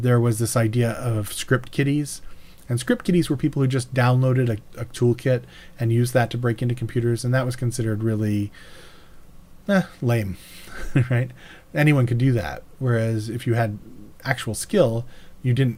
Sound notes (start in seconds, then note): 10.7 laughs